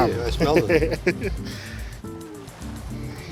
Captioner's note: laughs